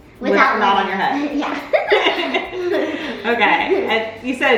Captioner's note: both laughs